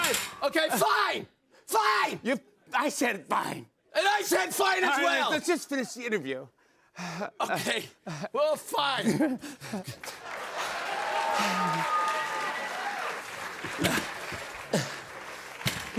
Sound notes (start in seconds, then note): 10.0 cheers and applause